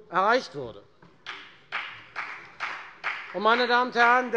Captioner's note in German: Beifall bei FDP